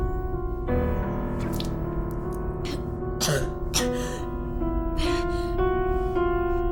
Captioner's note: Ura spits and coughs